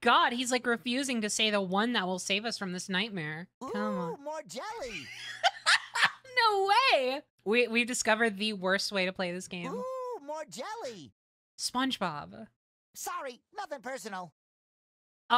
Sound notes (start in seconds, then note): 4.8 laughter